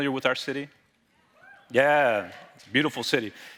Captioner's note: audience cheering